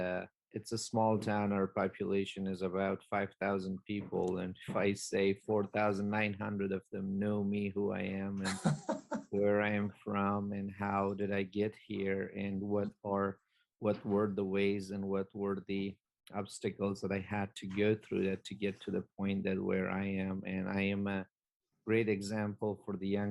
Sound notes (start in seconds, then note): 8.4 laughter